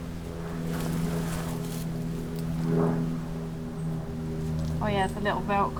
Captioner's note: fun plane flying about